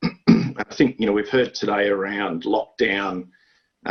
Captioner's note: clears throat